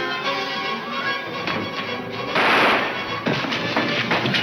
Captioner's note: guns firing